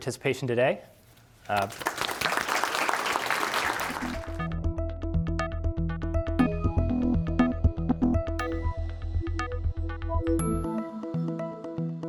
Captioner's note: applause